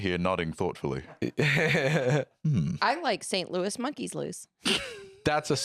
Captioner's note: laughs